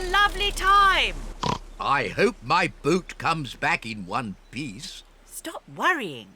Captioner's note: oinks